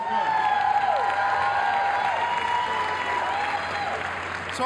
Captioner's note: crowd applauds